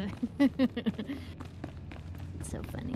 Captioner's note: laughs